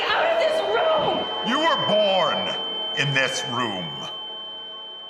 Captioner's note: high-pitch ringing